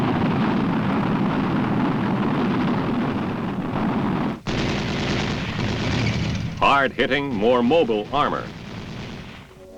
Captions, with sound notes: (gunshots booming) hard-hitting, more mobile armor,